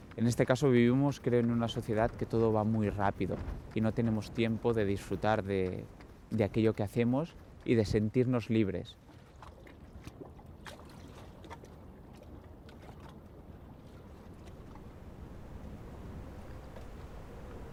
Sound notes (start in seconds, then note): 10.9 water splashing